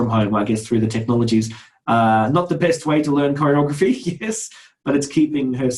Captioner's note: laughs